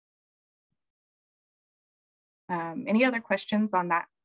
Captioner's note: silence